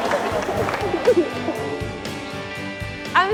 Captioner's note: cheers and applause; laughs